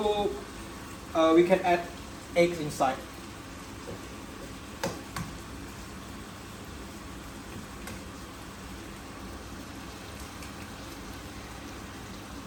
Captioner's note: crack egg